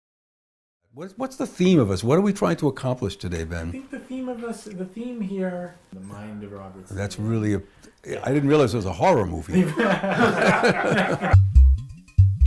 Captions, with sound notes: What's the theme of this? What are we trying to accomplish today, Ben? That's really... I didn't realize this was a horror movie. [laughter]